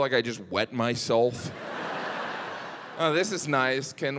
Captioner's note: audience laughing